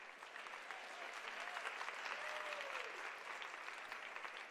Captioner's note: applause